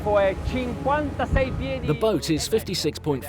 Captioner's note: speaking foreign language